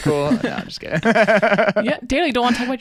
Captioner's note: laughing